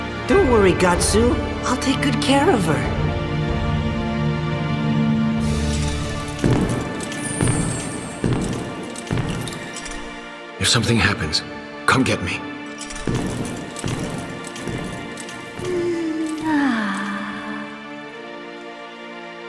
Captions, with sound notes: Don't worry, Gatsu. I'll take good care of her. If something happens, come get me. (Moans)